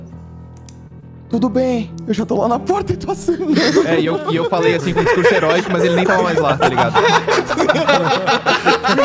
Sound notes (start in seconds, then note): 3.2 laughs